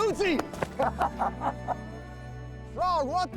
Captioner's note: laughter